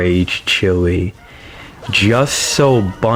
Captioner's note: inhales Oxygen